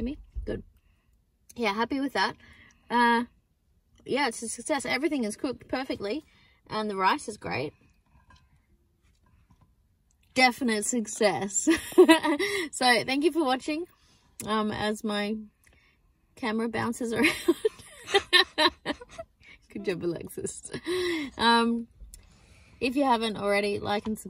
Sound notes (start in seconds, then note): 11.8 chuckles; 17.2 giggle